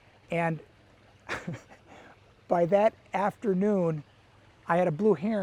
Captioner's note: chuckles